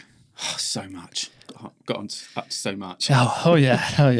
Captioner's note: sighs